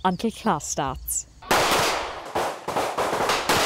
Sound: gunshots

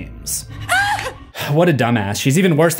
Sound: Sara screams

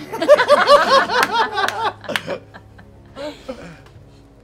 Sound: laughter

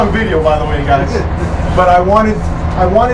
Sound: laughs

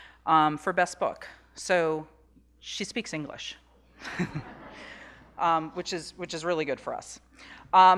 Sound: laughing

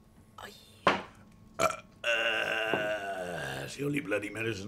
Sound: burps

